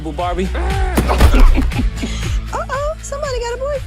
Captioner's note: laughter